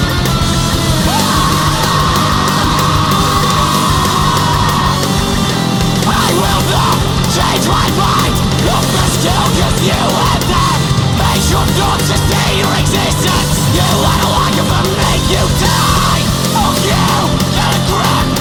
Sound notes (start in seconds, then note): 0.0 scream